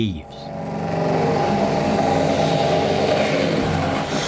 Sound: drill running

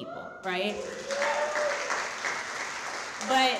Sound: audience applauding

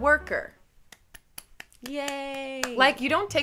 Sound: claps

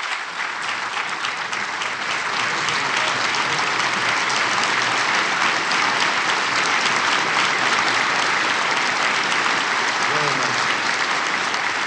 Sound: applause

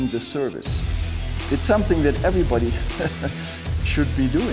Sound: chuckles

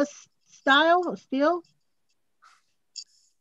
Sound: pause

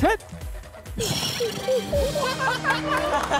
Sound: bursts out in laughter

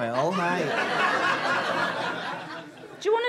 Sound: audience laughter

